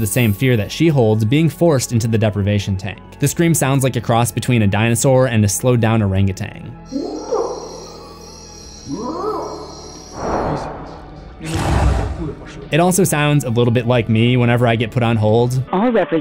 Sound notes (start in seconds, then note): 6.8 orangutan calls; 10.7 Demogorgon cry; 16.0 automated Voice